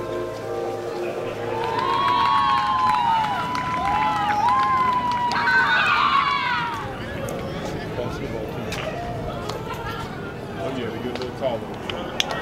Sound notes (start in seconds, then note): 1.2 cheers